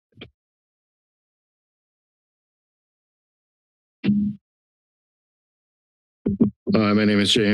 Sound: silence

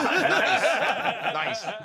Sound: laughter

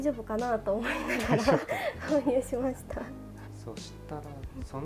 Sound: laughs

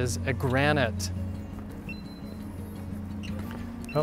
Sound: detector starts beeping

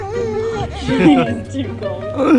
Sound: laughing; whining

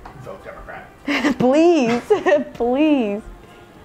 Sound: laughing

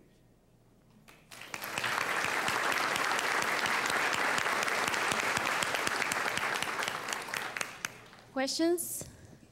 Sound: applause

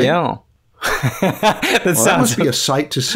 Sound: laughter

